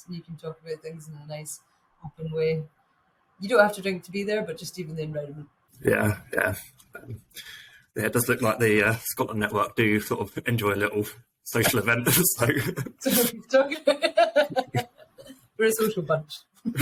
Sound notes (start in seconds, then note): 12.0 laughing; 16.6 chuckles